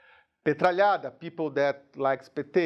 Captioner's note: speaking in a foreign language